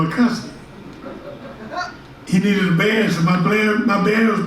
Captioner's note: audience laughs